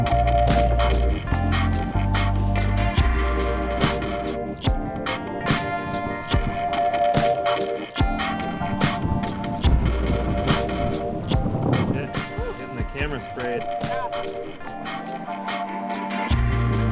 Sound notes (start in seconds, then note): 9.6 wind